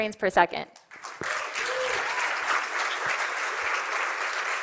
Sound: cheering and applause

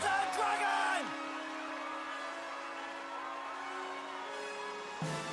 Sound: crowd cheering

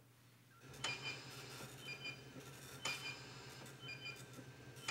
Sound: monitors beeping

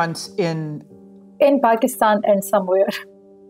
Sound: laughs softly

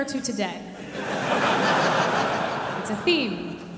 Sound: audience laughing

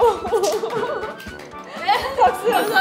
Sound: staff claps

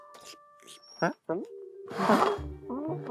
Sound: dreaded cat carrier door squeak!

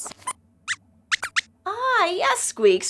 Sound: squeaks squeaks

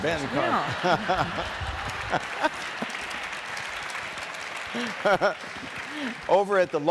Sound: audience applauding

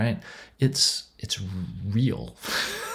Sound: laughs

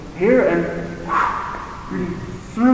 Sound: swoosh!

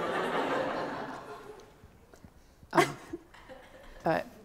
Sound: audience laughs

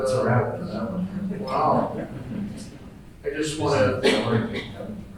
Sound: group laughing

